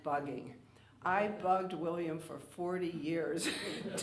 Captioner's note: laughing